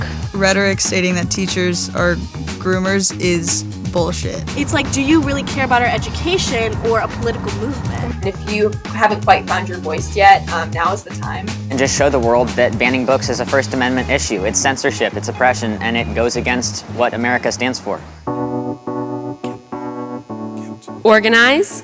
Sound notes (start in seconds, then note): none